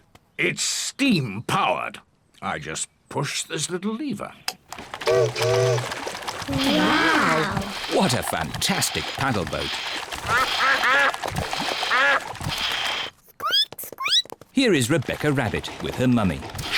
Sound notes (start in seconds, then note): 4.9 chimney toots; 10.3 ducks quack; 13.1 squeaks